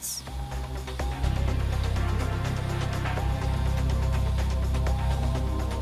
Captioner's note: upbeat music; digger whirring